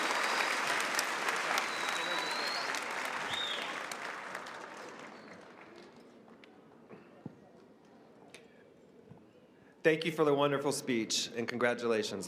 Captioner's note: applause